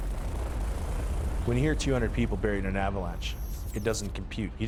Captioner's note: voiceover